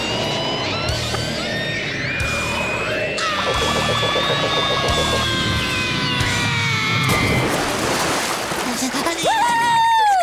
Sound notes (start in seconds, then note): 3.1 screaming